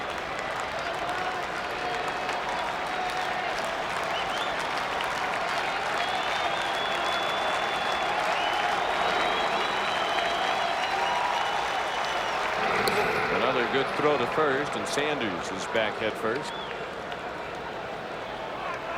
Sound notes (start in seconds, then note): 7.8 applause